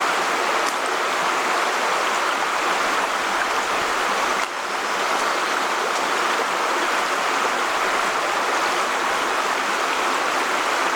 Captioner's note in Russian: шум реки